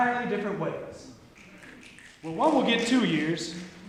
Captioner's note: snapping